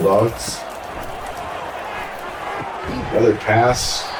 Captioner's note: crowd Noises